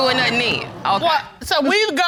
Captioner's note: audience gasping